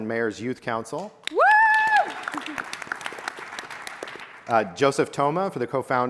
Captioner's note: audience applauding and cheering